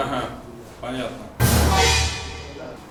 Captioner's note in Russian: Злобный звук